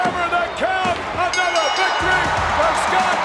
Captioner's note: bell rings